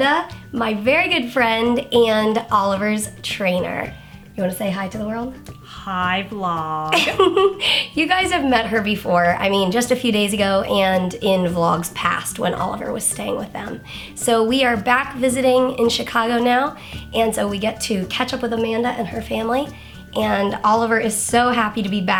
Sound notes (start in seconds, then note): 6.9 laughs